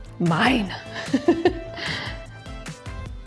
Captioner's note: upbeat music; chuckles; upbeat music